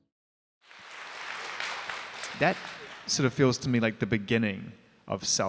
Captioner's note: applause